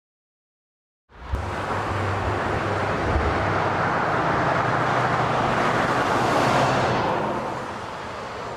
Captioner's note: traffic sounds